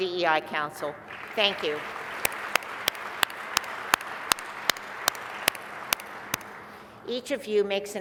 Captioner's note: applause